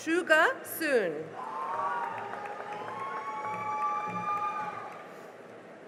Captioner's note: cheering and applause